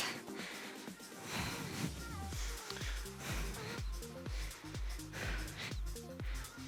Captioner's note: upbeat music; panting